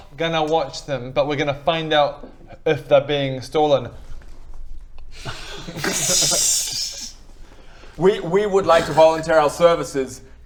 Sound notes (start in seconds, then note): 5.2 suspicious laughter